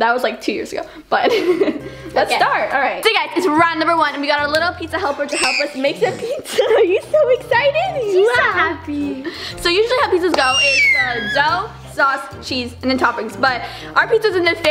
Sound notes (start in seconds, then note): 5.2 baby squeals; 10.3 baby squeals